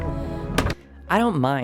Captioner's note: thud